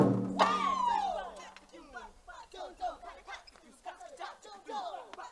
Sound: shouting in foreign language

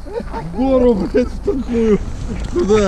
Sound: speaking Russian

